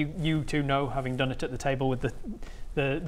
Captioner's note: none